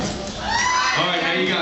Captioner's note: screams